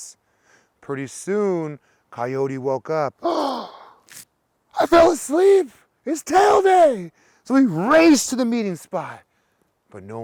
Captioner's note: gasp